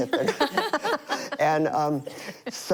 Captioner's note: laughter